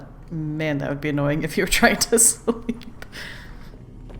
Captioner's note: laughs